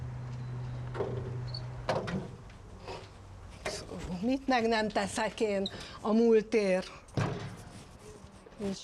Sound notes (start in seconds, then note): 1.8 door bangs